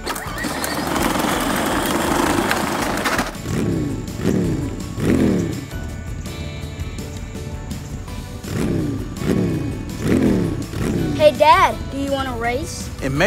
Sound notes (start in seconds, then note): 0.0 loud motor; 3.7 revving engine; 6.3 upbeat music; 7.8 revving engine